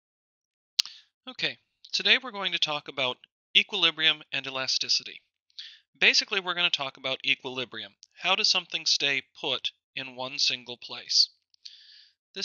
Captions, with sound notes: - [Voiceover] Okay, today, we're going to talk about equilibrium and elasticity. Basically, we're gonna talk about equilibrium. How does something stay put in one single place.